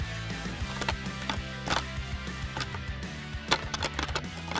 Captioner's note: antlers rattle